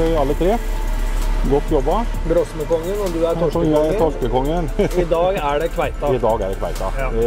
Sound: giggle

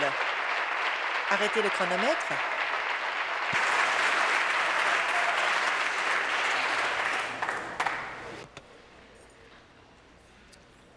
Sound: applause

